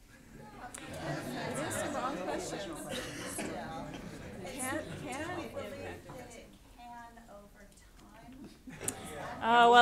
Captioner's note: audience chatter